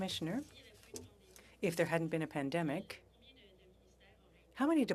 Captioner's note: speaking French